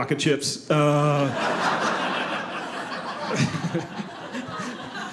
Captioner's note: audience laughing